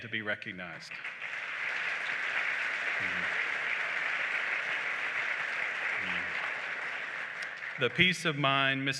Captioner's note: applause